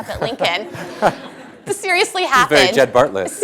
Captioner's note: laughter